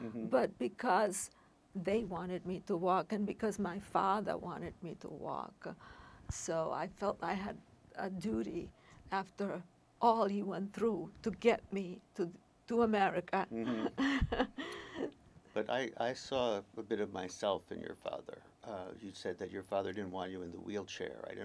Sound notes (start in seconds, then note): 13.6 laughing